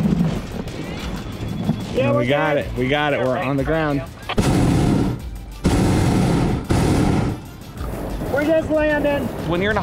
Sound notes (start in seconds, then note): 3.9 noise from two-way radio; 5.6 loud flame from burner